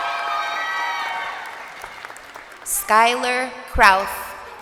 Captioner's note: crowd cheering